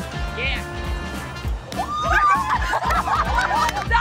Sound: cheering

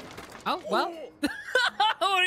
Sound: laughter

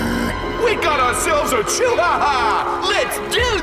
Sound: both growling

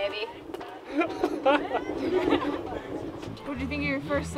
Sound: laughter

